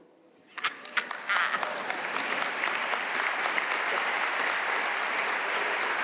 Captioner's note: audience cheering and applauding